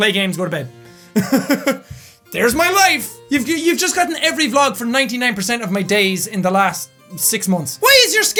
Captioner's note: laugh